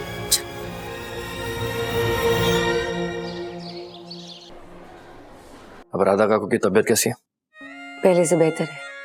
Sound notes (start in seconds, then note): 2.9 birds chirping